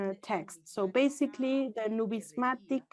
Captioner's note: foreign language